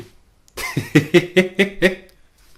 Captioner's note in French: rires